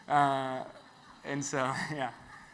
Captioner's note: audience laughs